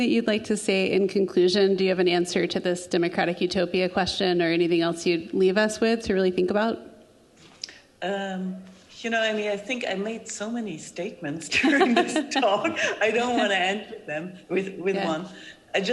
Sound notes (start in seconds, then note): 11.6 group laughing